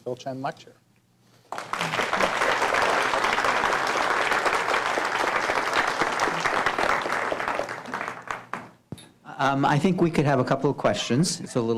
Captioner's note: applause